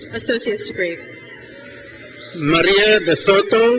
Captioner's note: crowd cheers